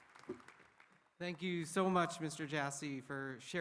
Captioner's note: applause